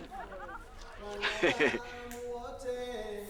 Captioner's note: chuckles